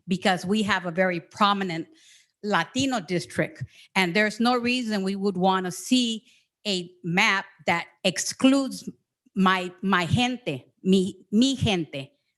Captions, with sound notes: because we have a very prominent Latino district. And there is no reason we would wanna see a map that excludes (speaks in foreign language) okay?